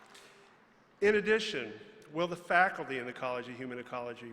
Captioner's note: applause